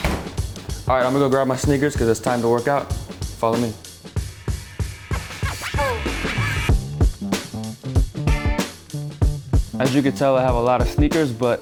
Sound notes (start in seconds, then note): 5.0 record scratching; 6.7 upbeat music